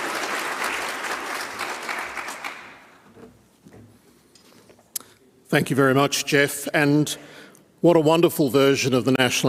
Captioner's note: applause